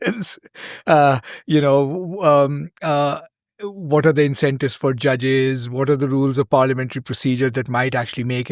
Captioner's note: chuckles